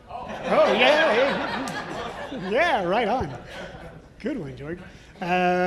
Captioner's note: audience and panel laughing